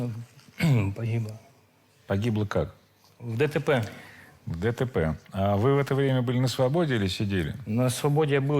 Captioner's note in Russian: откашливается